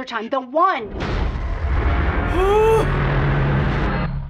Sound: chilling music; intense gasp

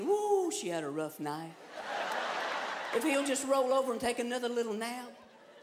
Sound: laughter

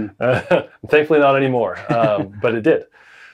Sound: laughs

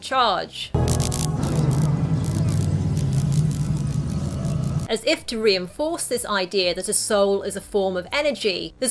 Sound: electrical crackling sounds

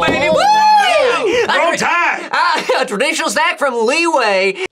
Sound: in Southern accent

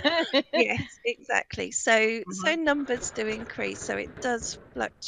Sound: laughing

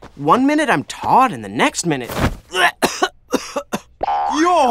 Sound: coughing

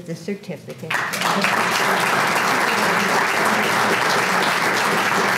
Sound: applause

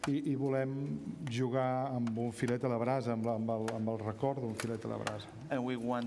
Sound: speaking catalan

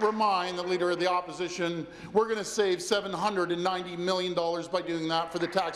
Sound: applause

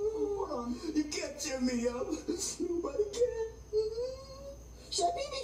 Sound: whimpering

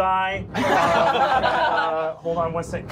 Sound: laughing

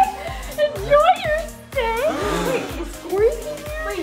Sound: crowd shrieking

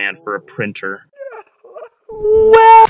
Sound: printer muffled sobbing

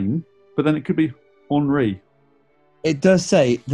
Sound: french pronounciation

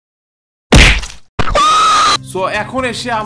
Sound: cries

